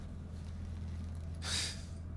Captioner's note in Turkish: Ağız Hışırtısı